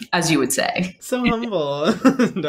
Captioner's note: laughter